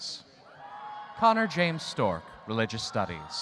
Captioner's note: audience cheering